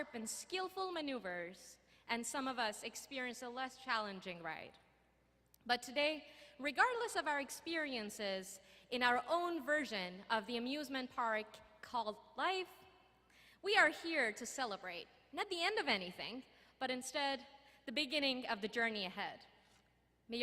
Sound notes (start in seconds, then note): none